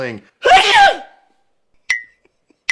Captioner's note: achoo!